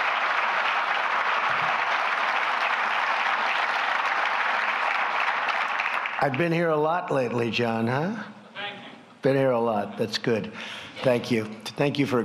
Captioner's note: applause